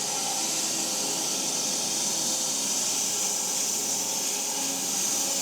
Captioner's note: log saw whirring continues